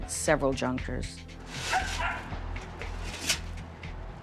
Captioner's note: dog barking